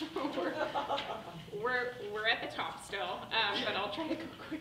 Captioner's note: people laughing